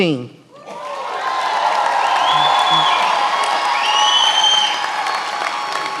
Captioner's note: attendees applauding and cheering